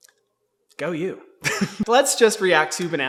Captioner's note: laughs